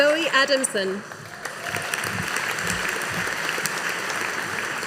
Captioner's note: audience applauding